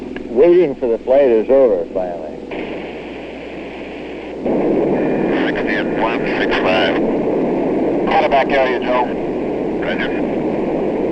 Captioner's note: radio tower talk